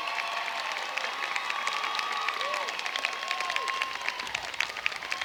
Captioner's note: cheers and applause